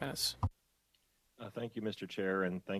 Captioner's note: speaking French